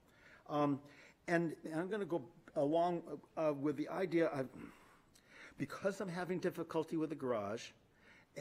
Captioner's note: clears throat